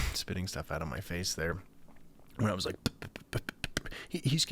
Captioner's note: making spit noises